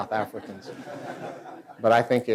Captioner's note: laughter